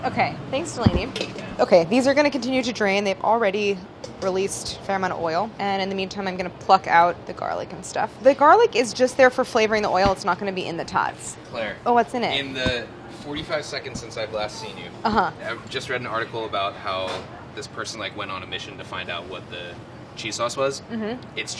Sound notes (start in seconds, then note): none